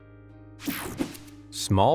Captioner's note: gentle music; graphic whooshes